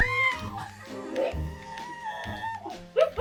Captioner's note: gagging; laughing